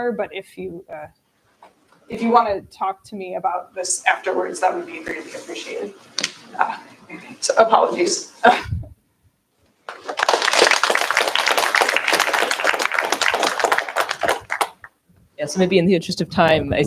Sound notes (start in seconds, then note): 9.9 applause